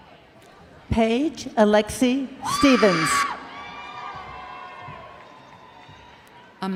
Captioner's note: crowd cheering